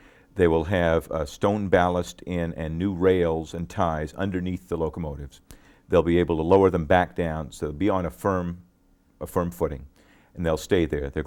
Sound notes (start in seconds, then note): none